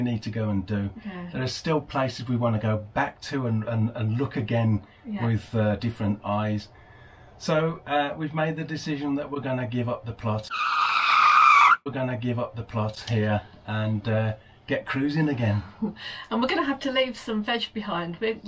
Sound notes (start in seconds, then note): 10.4 screech